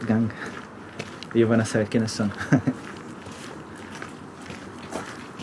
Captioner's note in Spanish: risas